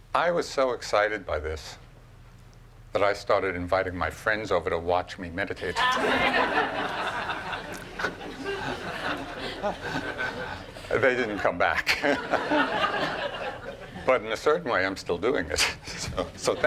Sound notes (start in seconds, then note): 5.7 laughing